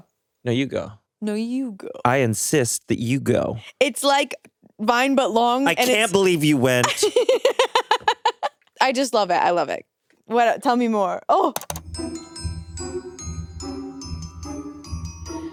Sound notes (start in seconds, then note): 6.8 chuckles; 11.6 gentle music